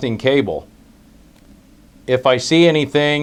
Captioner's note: pause